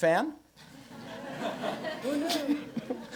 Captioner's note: laughter